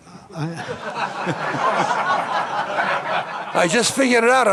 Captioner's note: all laughing